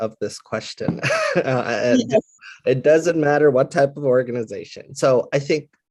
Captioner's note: laugh